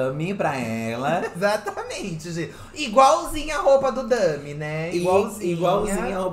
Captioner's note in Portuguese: rindo